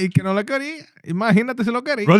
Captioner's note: non-english Speech